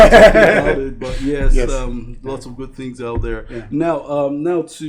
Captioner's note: both laugh